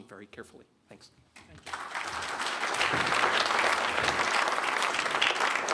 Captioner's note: clapping